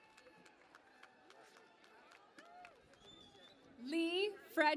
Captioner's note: cheering and Applause